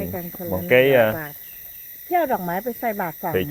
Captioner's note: speaking in Thai